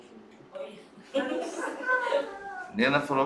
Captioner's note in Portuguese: risos